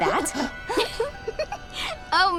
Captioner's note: laughing